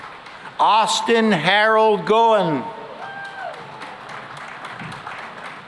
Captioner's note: cheering and applause